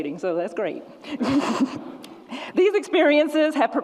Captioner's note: laughs